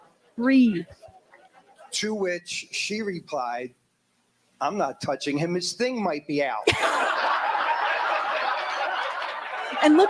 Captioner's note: laughter